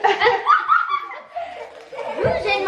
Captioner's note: laughs; kids laughing